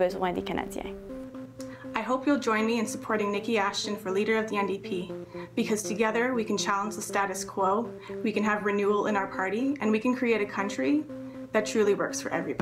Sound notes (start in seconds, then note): none